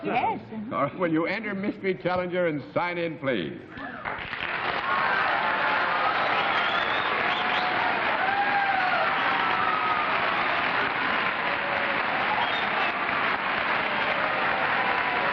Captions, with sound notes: - OK. - Yes. - All right. Will you enter, mystery challenger, and sign in, please? [cheers, applause]